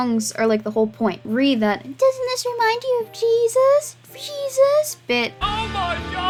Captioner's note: mocking